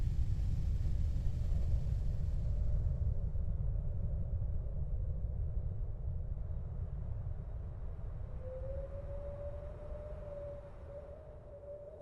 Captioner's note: background - whistling winds..airplane hum